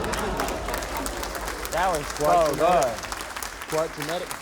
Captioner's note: cheering, applause